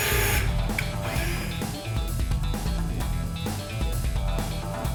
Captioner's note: sounds of tools